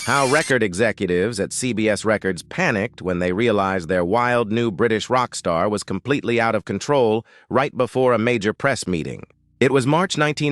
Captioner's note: SFX: sudden tape rewind